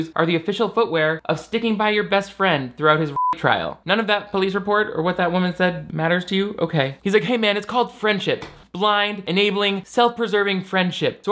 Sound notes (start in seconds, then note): 3.1 beep